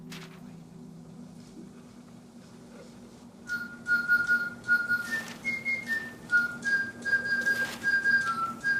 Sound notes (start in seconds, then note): 3.4 whistling